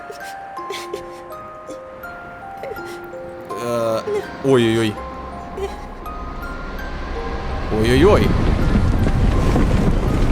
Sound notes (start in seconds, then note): 0.0 cries